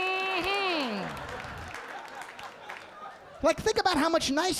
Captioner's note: audience laughing